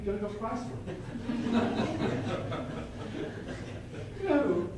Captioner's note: laughter